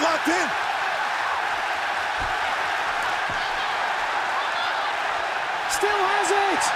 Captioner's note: crowd cheering